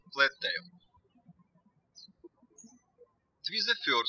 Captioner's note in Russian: птички щебечут